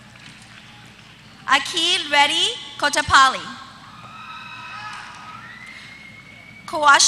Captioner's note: applause